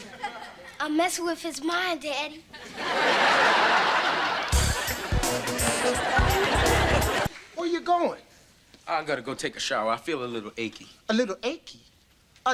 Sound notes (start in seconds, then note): 2.6 audience laughter; 4.5 funky beat